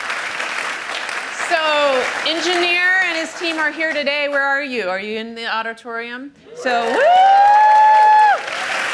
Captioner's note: cheers and applause